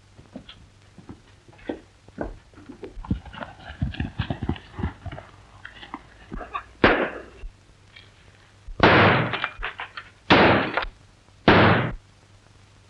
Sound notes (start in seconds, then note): 6.8 gun shot; 8.8 gun shots